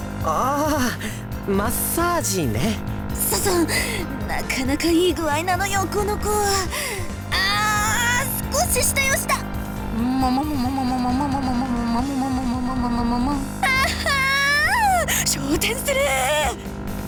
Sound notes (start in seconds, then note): 7.3 moan; 14.3 louder moan